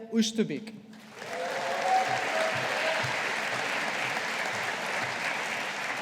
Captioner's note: audience applauding